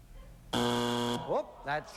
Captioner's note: buzzer